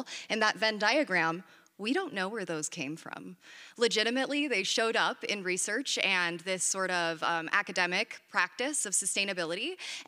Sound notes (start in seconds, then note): none